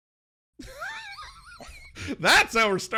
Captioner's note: laughing